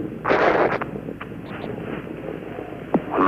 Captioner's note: radio static